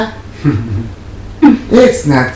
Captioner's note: laughing